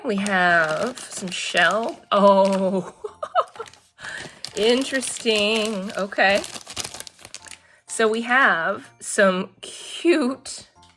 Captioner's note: laughs